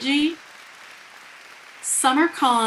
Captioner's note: people cheering